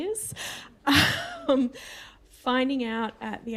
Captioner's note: laughter